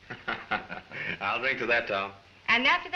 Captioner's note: chuckles